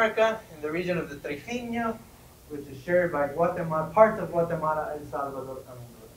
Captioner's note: spanish